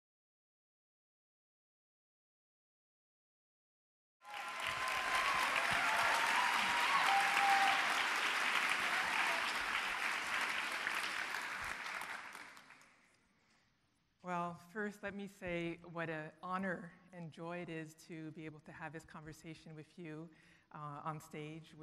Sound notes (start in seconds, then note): 4.2 audience cheering